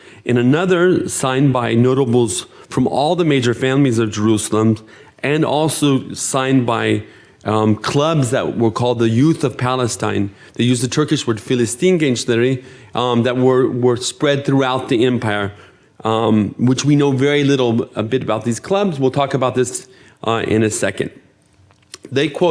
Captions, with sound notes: In another, signed by notables from all the major families of Jerusalem, and also signed by clubs that were called the Youth of Palestine, they used the Turkish word... (speaking in foreign language) That word spread throughout the empire, which we know very little a bit about these clubs. We'll talk about this in a second.